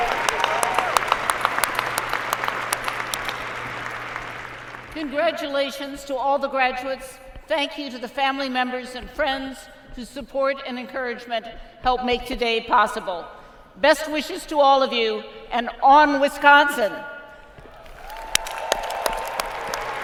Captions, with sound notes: >> CHANCELLOR:ONE MORE ROWN OF APPLAUSE FOR ALL OF OUR GRADUATES. (APPLAUSE) CONGRATULATIONS TO ALL OUR GRADUATES AND THANK YOU TO THE FAMILY MEMBERS AND FRIENDS WHOSE SUPPORT AND ENCOURAGEMENT MADE